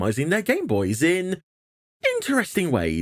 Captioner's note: stunned silence